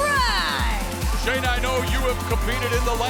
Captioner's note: crowd cheering